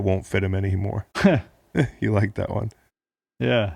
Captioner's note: laughing